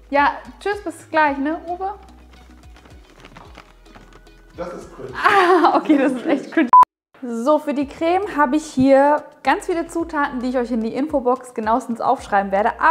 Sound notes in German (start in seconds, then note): 4.7 lacht